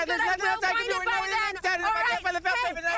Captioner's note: overlapping shouting